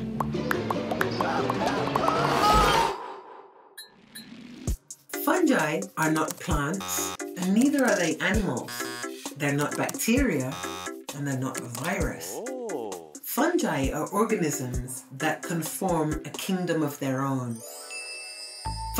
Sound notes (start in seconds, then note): 6.8 buzzer